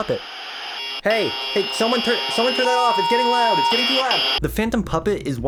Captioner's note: angry phantom puppet noises